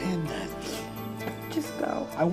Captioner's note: sniffles